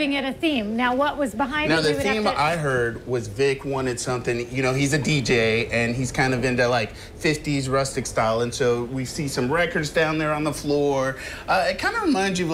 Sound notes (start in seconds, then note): 1.7 laughs